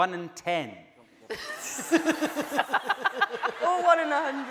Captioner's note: laughing